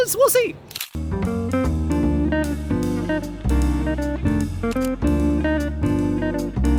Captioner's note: camera clicking; jazz music